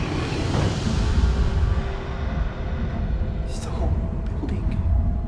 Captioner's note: voice growls